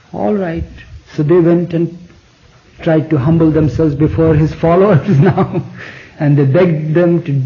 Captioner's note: laughs